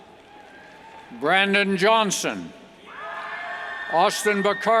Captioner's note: cheers